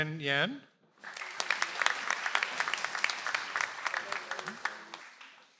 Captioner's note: audience applauds